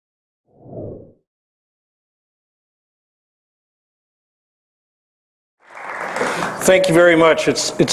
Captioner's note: applause